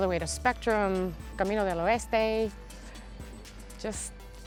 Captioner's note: speaking in foreign language